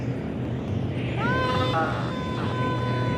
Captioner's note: screams